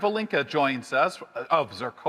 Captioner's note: none